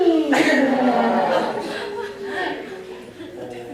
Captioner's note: laughter